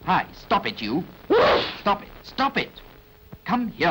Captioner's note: achoo